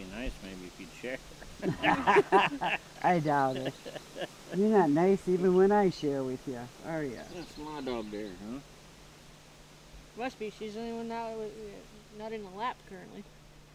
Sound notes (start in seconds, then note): 1.4 laughing